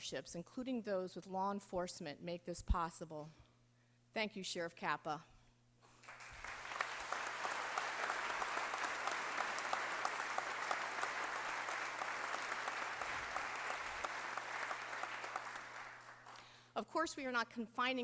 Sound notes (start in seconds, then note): 5.9 applause